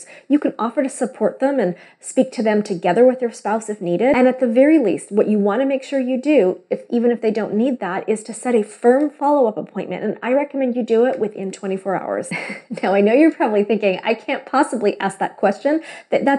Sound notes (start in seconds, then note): 12.3 laughs